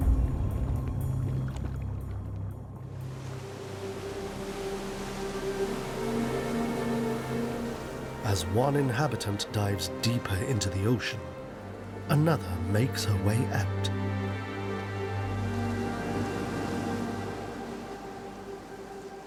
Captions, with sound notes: (waves crashing) (ethereal music) As one inhabitant dives deeper into the ocean, another makes her way out.